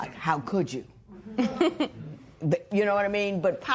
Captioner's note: chuckles